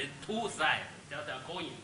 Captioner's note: speaks Chinese